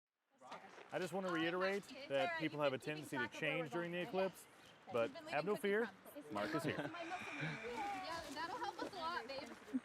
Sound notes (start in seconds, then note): 6.8 sighs